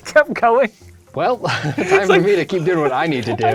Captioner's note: laughs